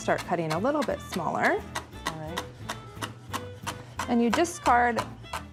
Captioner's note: none